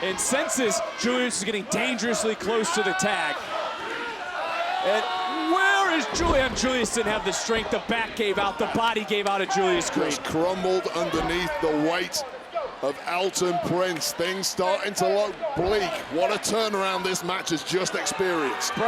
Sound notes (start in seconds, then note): 3.4 audience chattering